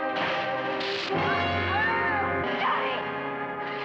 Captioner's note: screams